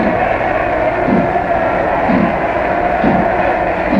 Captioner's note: train chugging